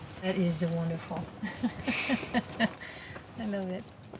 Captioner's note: laughing